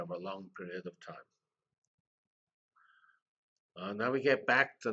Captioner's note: pause